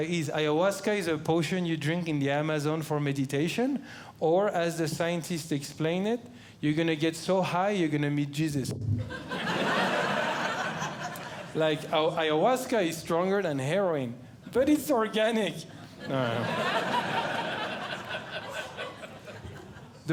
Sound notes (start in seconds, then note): 9.0 audience Laughing; 15.8 audience Laughing